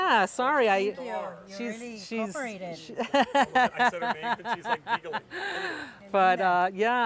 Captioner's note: laugh